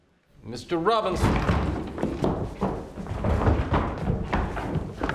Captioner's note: door rattling and thumping